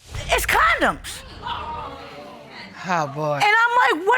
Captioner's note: audience exclaim